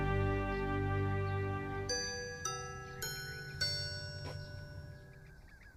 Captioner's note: doorbell chimes